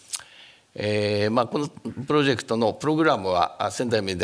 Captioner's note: speaking japanese